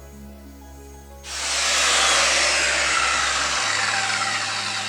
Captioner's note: saw whirring